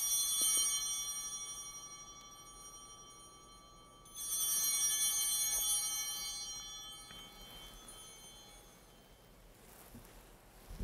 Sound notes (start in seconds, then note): 0.0 bell ringing; 4.1 ringing continues